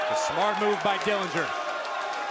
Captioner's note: crowd cheering